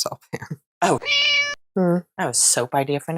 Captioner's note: meow